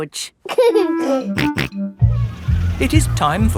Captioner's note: giggling and snorting